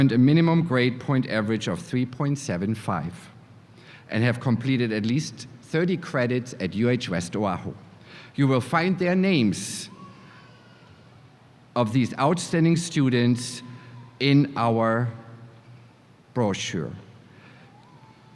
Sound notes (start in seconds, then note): none